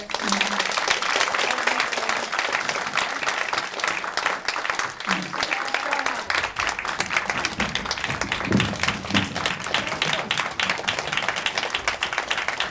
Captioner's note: applause